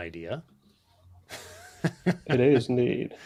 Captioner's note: laughs